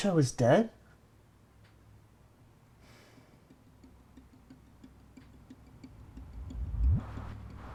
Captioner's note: male Voice